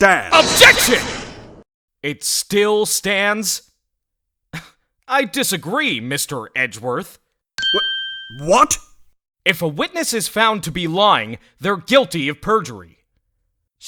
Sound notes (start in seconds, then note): 4.5 scoffs